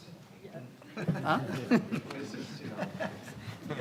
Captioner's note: panelist laughing